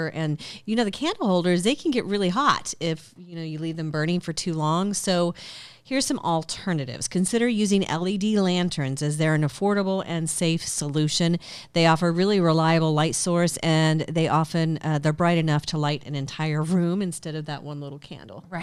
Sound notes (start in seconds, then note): none